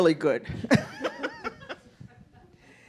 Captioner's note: laughing